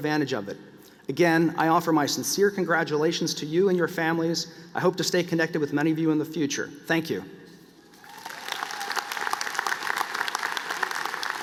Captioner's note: applause